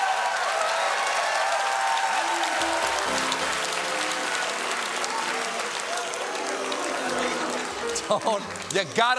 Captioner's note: cheers and applause